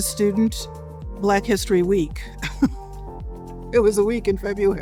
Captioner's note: laughs